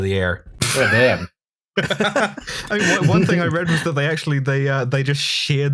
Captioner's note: laughter